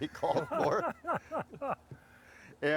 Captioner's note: laughing